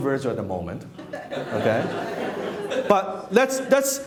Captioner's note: laughing